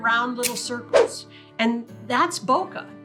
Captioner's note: air whooshes